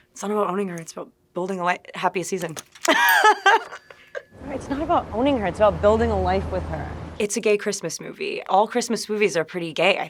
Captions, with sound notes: "It's not about owning her, it's about building a life-" "Happiest Season." (laughing) (graphic chiming) - "It's not about owning her, it's about building a life with her." - It's a gay Christmas movie. All Christmas movies are pretty gay.